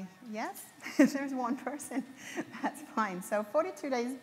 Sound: laughs

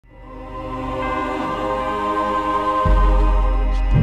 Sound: chanting

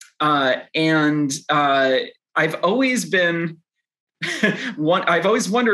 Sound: chuckles

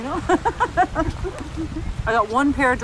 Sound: laughs

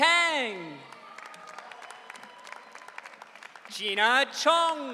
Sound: audience cheering

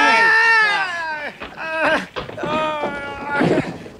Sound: screams

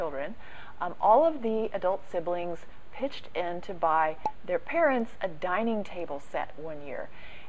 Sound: pop

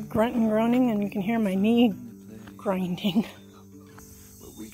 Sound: laugh

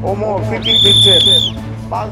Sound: whistle

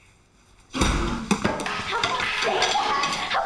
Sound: equipment clangs

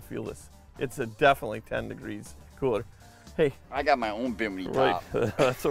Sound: laughing

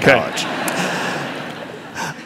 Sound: laughter

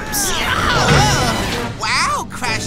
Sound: shouting

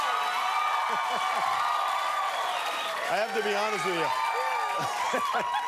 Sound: cheers and applause

